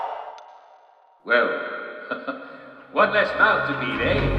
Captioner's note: chuckles